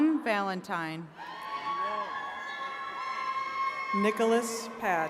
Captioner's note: attendees cheering